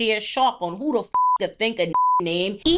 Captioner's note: beep